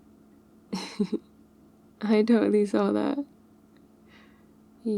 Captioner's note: laughs